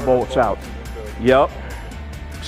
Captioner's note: employee inquiring quietly